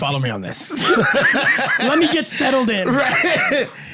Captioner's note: laughter